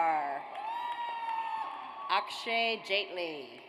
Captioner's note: audience cheers